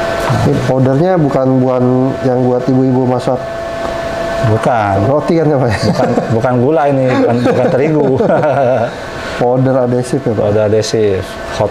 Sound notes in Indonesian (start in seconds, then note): 7.0 tertawa kecil